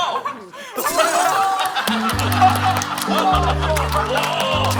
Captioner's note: horns!